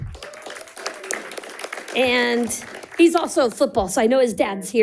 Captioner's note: audience applauding and cheering